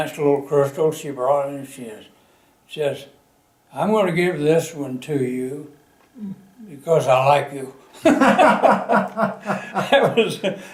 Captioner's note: laughter